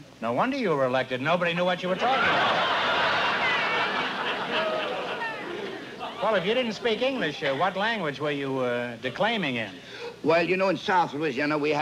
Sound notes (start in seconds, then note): 2.0 laughter